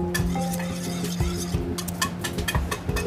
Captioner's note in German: Küchengeklapper